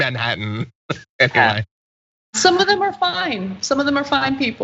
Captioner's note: laugh